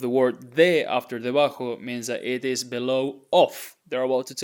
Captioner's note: speaking in Spanish